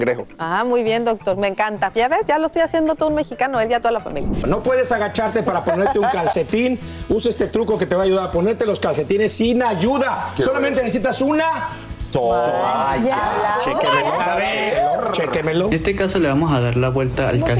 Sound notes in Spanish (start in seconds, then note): 5.4 risas